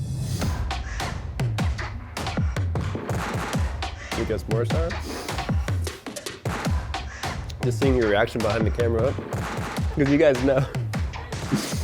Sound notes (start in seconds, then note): 0.2 techno music; 6.7 breath inhaling; 10.6 breath inhaling